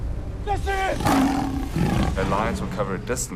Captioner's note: growling